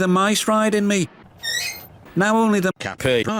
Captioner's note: squeak!